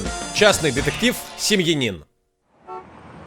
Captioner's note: quacks; <i>car horns honking</i>